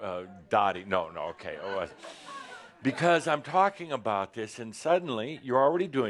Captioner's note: some laughter